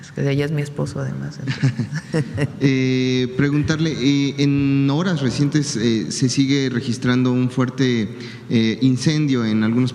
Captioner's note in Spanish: risas